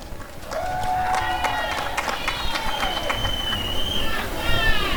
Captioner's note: applause and cheering